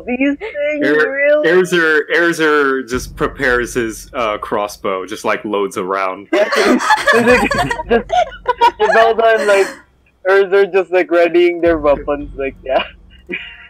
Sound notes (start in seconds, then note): 8.0 laughter